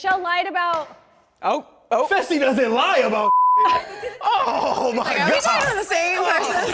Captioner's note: beep